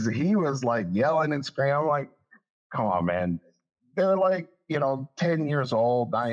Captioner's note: laugh